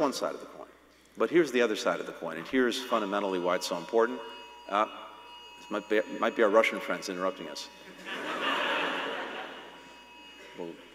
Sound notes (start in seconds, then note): 2.8 phone alarm rings; 7.9 laughter